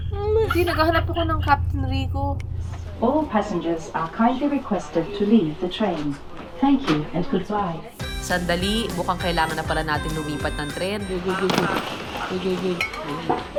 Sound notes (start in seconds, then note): 2.8 PA Announcement